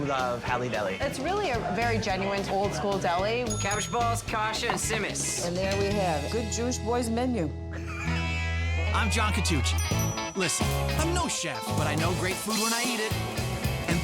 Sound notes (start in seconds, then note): 3.4 bell dings; 7.7 John laughs; 8.9 upbeat music